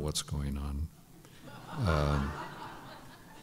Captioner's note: laughter